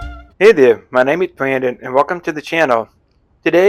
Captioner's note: voiceover